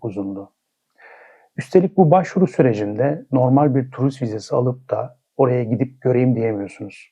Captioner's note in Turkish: iç çeker